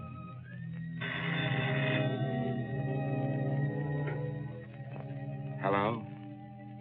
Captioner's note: phone rings